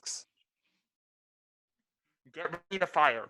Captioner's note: voices now muffled